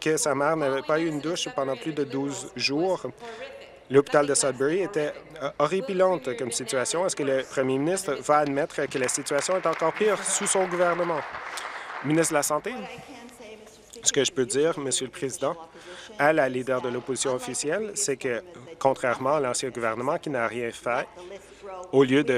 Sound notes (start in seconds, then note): 12.5 applause